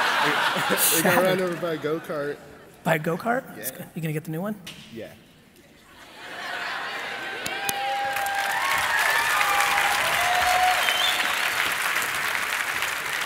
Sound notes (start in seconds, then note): 6.3 audience cheering